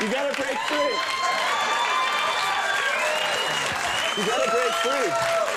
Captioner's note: audience cheering